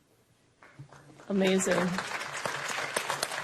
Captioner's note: applause